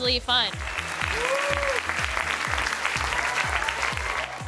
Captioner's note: applause